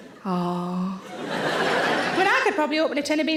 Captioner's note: audience laughing